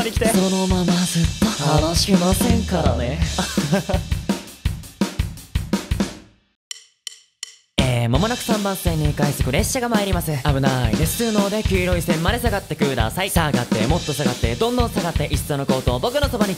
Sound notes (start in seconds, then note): 6.5 natural voice